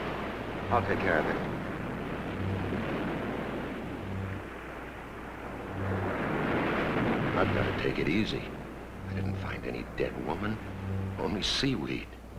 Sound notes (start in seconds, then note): 2.2 tense music; 5.6 waves crashing